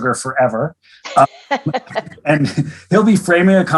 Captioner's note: laughs